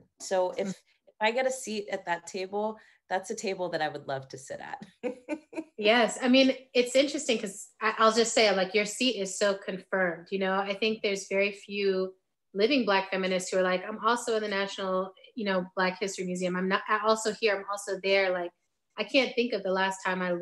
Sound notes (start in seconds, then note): 5.0 laughing